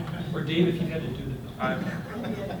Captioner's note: laughter